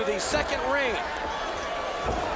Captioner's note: crowd chatter